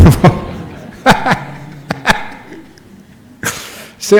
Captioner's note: Ajahn laughs